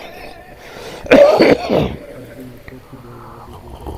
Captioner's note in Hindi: खांसने की आवाज़